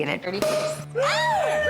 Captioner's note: pop!